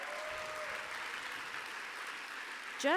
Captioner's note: applause